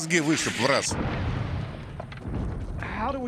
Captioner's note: loud explosion